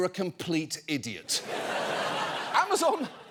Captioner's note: audience laughing